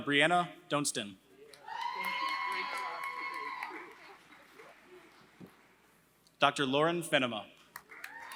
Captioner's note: applause; applause